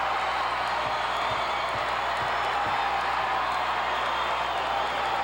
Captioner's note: audience cheering